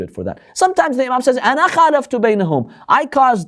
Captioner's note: Arabic